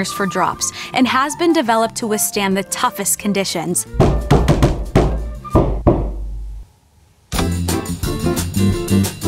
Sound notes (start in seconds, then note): 3.9 knock, knock from somewhere; 3.9 knock, knock, knock, knock, knock